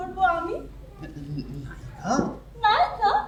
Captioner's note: exclaims in surprise